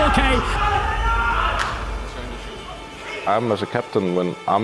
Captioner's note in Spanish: el equipo grita